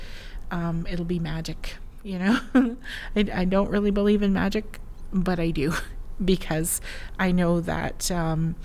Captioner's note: laughs